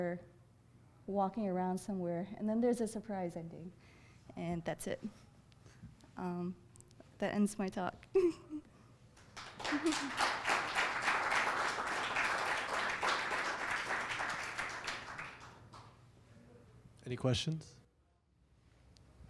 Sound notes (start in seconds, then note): 8.1 giggling; 9.2 audience clapping